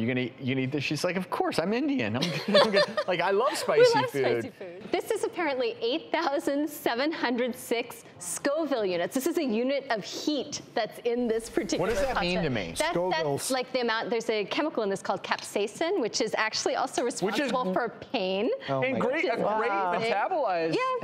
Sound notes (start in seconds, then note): 2.2 laughs